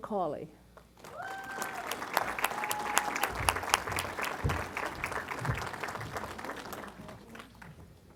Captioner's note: applause